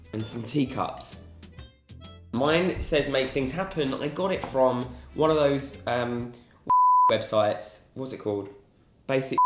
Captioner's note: beeps